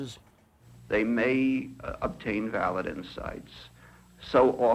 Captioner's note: voiceover